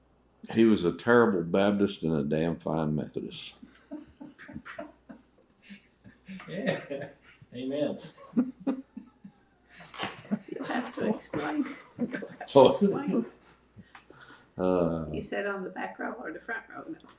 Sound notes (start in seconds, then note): 3.6 laughter; 11.6 laughs